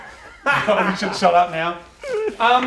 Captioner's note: laughing